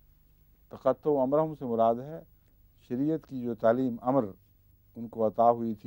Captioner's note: Arabic